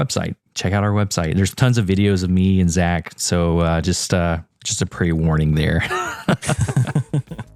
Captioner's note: laugh